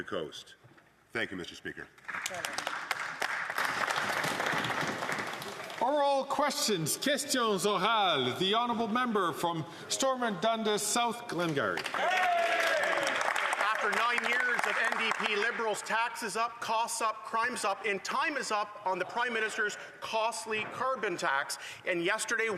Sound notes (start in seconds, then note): 6.5 some Applause; 11.3 speaking French; 14.8 some Applause